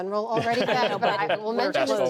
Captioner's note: laughter